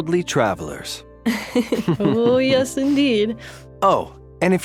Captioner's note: soft laugh